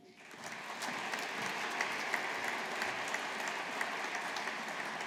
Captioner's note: audience applauding